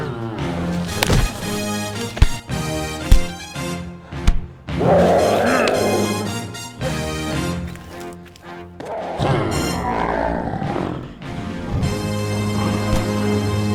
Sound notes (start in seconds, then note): 0.0 riverbeast roars; 2.6 suspenseful music; 8.8 riverbeast roars